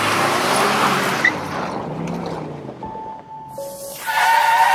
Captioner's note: car engine revving